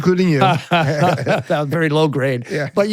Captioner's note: both laughing